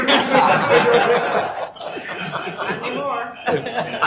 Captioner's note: laughing